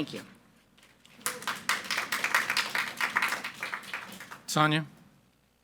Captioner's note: audience applauding